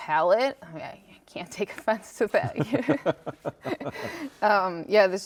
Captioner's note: laughs